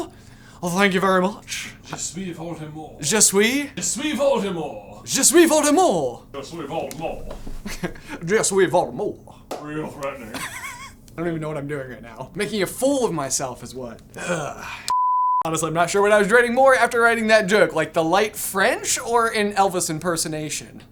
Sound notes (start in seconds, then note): 10.2 laughing; 14.9 please stand by beep